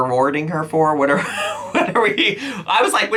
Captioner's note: laughs